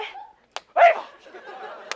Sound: slap

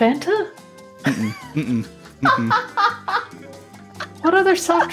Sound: woman laughs

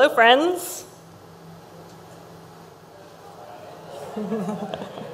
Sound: crowd laughs

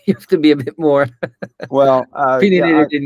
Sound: laughs

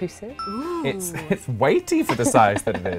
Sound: bell chimes

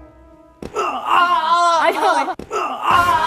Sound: screaming

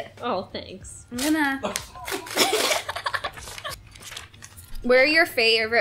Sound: laughing

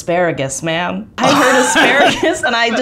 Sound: laughs

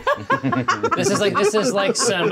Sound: co-hosts laughing

